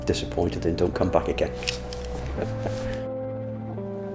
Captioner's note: laughs